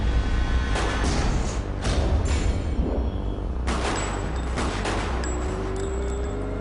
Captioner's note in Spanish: Disparos